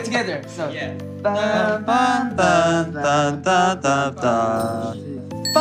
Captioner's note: all hum tune; ding!